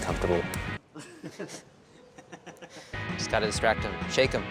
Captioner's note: people laughing